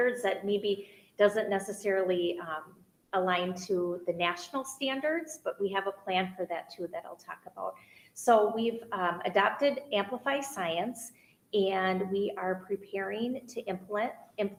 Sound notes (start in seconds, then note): none